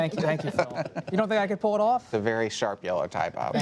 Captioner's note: laughter